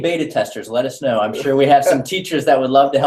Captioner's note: laugh